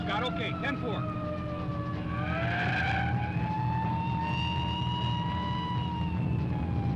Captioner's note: siren blaring; tense music